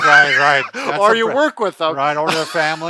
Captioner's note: laughing